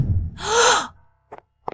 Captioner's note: surprised... gasps